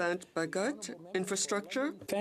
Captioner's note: speaking French